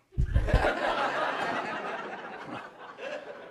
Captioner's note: audience laughs